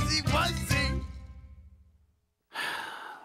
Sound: Lionel sighs

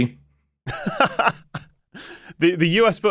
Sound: laughs

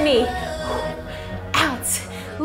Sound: breathes heavily

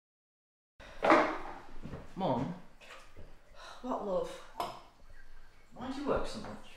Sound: sigh

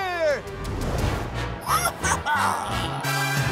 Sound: squawking

